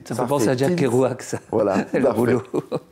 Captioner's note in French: rire